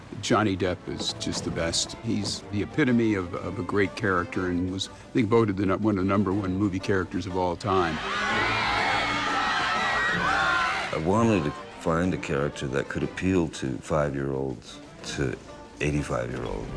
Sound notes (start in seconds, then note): 7.8 crowd screaming